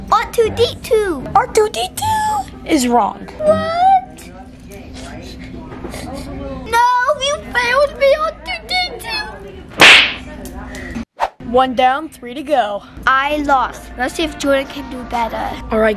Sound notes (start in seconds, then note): 5.4 sniffling; 9.5 toy bangs